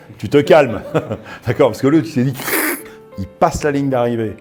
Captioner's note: fsshhh